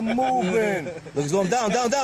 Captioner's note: everyone laughing